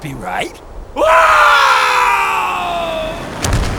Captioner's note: scream; slam